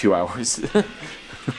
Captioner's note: laughs